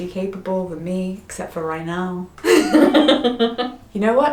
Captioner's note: laughs